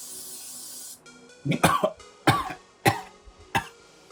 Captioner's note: coughing